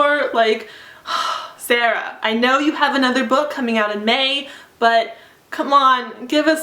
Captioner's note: sigh